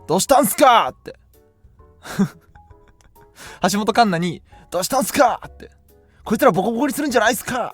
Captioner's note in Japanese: 笑い